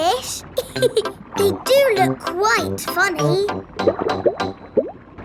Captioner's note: laughs